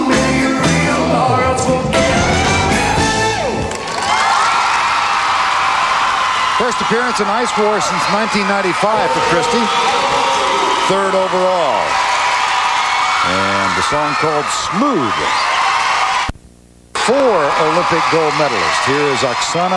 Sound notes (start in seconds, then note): 7.9 crowd Cheering